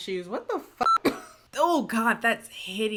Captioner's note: beep